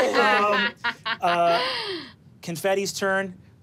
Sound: laughs

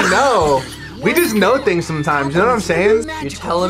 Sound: bell dings

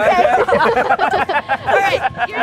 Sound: laughing

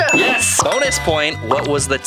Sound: bell dings

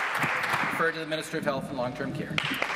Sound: applause

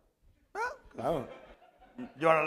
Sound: speaking spanish

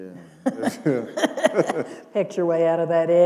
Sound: laughter

